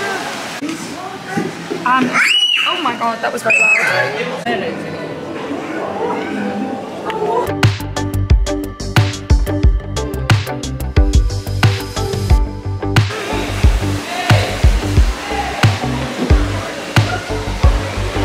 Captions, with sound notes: *child screams* oh my God that was loud